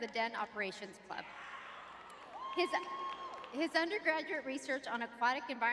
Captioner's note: audience cheering